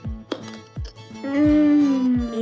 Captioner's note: tomatoes crunching